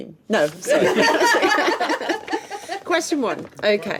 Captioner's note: laughing